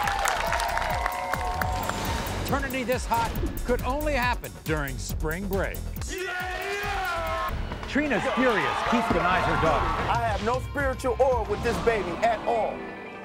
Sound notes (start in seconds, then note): 0.0 upbeat music; 6.1 cheering